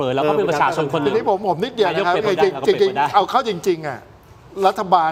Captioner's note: laughter